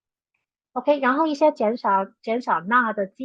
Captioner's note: speaking chinese